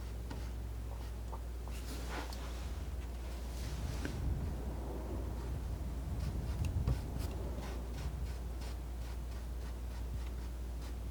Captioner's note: scratching